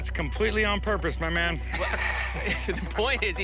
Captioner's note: laughs